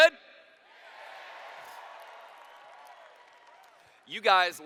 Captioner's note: cheers